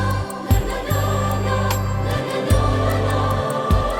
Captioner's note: none